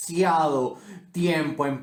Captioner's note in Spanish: big respiro